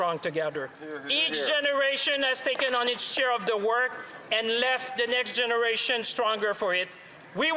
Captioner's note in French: voix de l'interprète